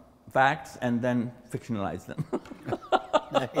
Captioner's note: laughs